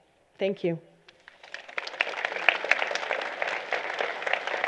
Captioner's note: applause